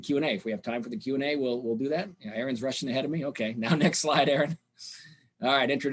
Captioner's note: chuckling